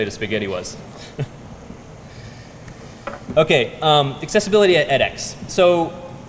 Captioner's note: laugh